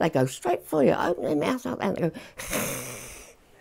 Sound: hissing

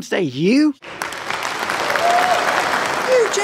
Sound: cheering and applause

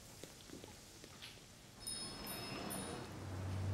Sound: bell jingles

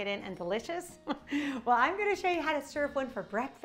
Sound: chuckles

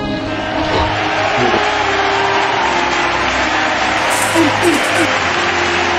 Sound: Israelite Army Cheering

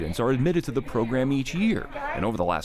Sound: class chatters

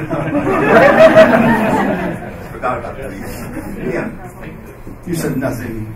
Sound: laughing

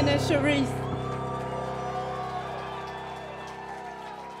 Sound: applause

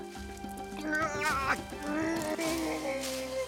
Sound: grunting

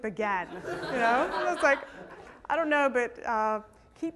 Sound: laughter

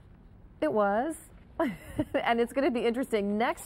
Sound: laughs

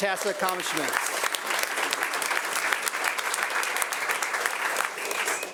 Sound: audience applauding

